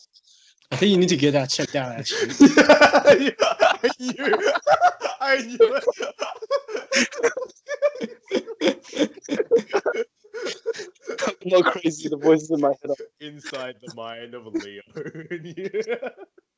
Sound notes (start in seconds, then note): 3.2 laughs uproariously; 7.6 continues laughing; 9.1 seal starts dying again